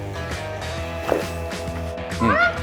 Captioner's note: swallow